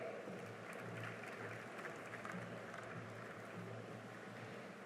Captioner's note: cheering and applause